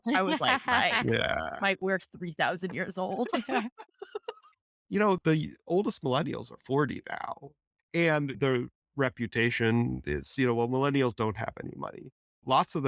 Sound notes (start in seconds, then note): 2.7 laughter